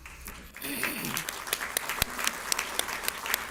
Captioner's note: audience applauds